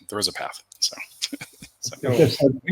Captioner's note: laughs